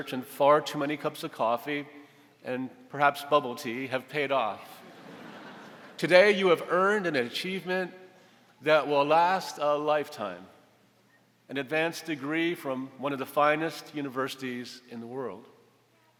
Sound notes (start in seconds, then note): 4.8 audience laughing